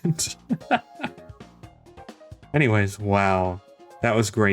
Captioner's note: laughs